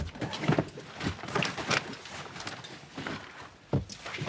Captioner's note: rifling through bags